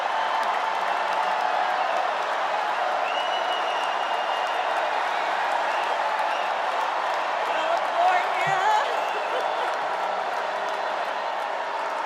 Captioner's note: cheers and applause